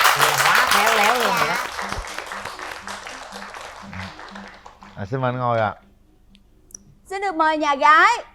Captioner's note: applause